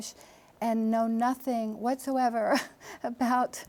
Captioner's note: chuckles